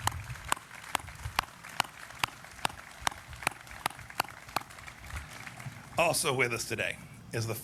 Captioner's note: applause